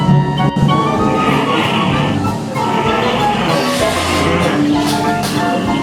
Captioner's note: growling